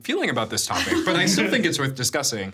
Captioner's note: chuckling